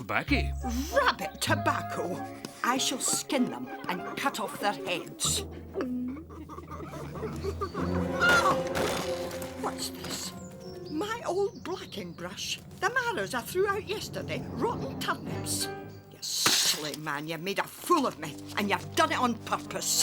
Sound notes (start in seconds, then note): 6.0 bunnies laughing